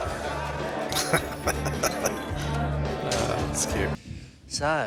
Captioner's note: laughing